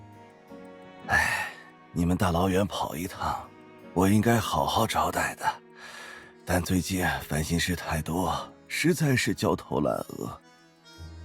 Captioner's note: sighs